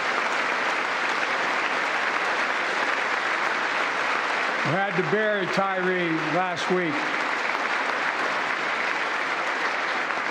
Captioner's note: applause